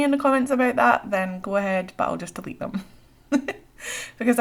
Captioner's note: laughs